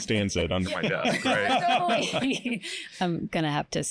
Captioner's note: laughter